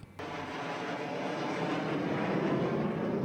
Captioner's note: plane taking off